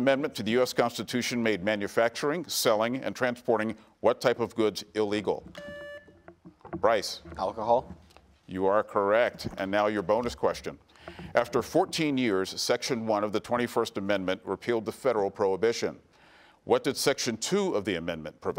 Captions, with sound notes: made manufacturing, selling and transporting what type of goods illegal? (buzzer beeps) Bryce? - Alcohol. - You are correct. And now your bonus question. After 14 years, Section 1 of the 21st Amendment repealed the federal prohibition. What did Section 2 of the amendment provide?